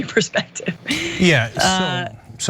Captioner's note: laugh